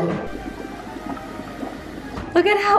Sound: steaming and bubbling

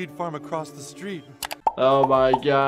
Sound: background mouse clicking

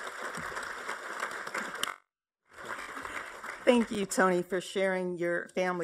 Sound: applause

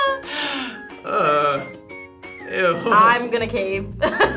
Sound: laughs; laughs; laughs

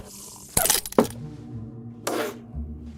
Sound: glass cracking; spits

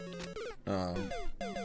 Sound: death audio

